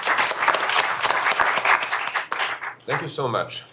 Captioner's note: applause